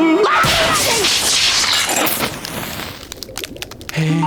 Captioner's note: glass breaking